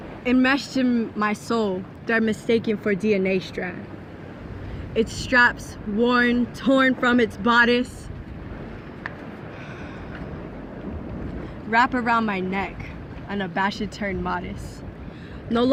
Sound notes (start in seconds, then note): none